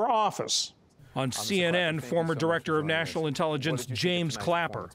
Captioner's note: voice-over